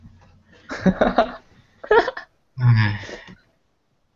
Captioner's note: sigh; giggle